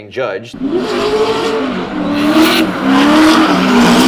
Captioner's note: engines rev